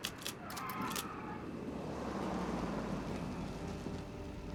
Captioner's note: engine revving; suspenseful music